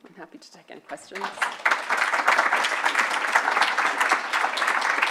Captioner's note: audience applauding